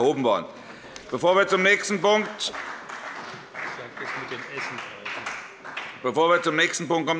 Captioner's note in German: Beifall bei der CDU und dem BÜNDNIS 90/DIE GRÜNEN